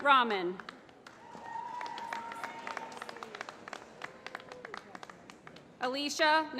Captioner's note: applause